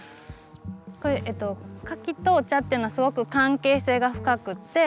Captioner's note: speaking Japanese